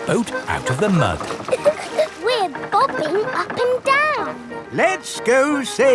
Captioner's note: chuckles